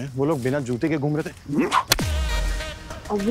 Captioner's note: Hitting the stick sound